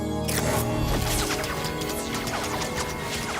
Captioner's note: zinging